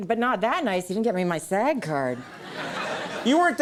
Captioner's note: audience laughing